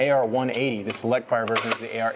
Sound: gun charging click

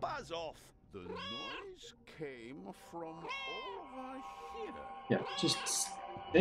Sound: Hodge meowing; Hodge meows

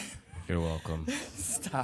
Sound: laughing

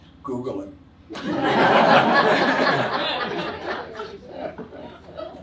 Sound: audience laughs

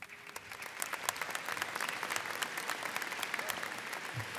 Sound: audience applauding

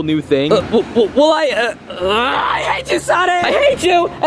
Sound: screams

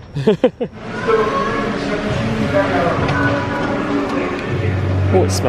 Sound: laughing; people conversing

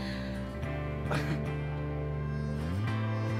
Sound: laughs; upbeat music

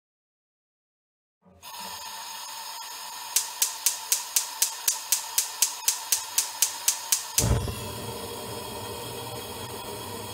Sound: sound of gas stove spark

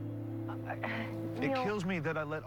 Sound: sighs

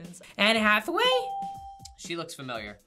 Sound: bell rings

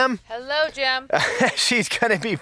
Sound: laughs

